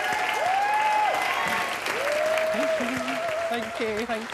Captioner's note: cheering & applause